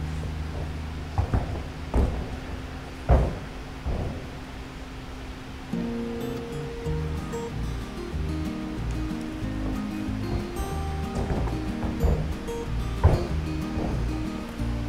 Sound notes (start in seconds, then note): 0.1 footsteps thudding; 5.7 bright music; 8.8 footsteps thudding